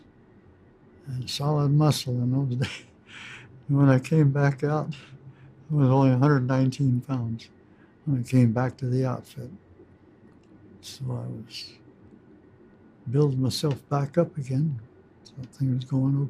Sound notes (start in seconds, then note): 2.6 laughs